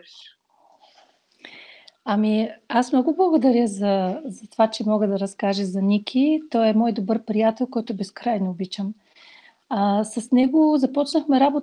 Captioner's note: foreign Language followed by English Interpreter